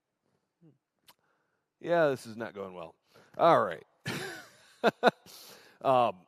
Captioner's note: laughter